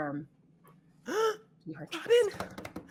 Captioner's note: gasping; pounding desk